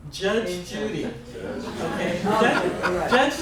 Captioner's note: laughs